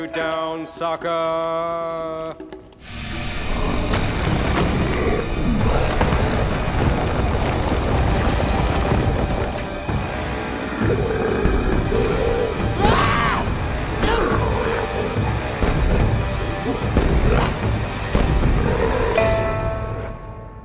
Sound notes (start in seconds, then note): 3.4 growling; 12.7 screaming; 14.0 grunting